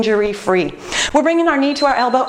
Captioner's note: beeping